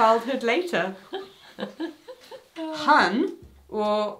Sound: both laugh

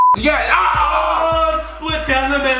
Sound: shouting

